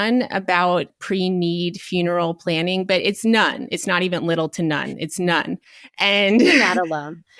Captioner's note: chuckles